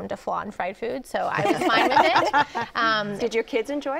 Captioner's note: laughter